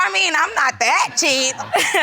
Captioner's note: audience laughing